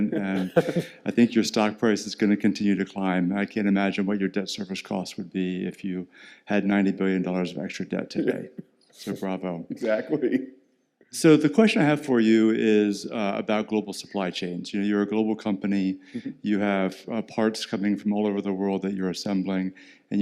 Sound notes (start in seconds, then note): 9.5 laughs